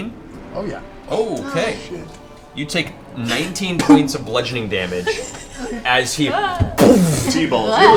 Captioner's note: impact sound